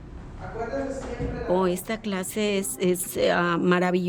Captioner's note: woman speaking Spanish